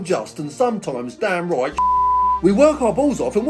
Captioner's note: beep